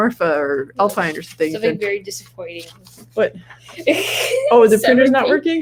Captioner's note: laughs